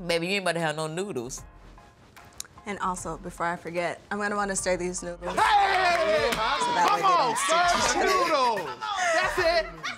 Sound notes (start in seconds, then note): 5.3 family members cheering; 7.4 laughing